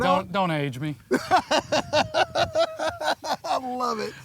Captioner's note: laughing